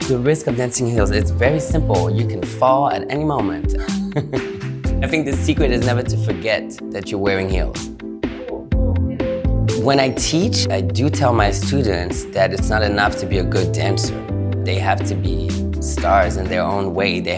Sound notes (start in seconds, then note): 3.8 giggles